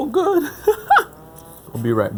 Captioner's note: laughs